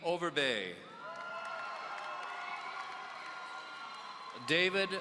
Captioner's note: audience cheering